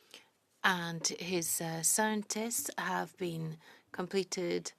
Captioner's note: speaking French